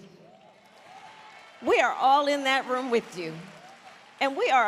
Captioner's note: applause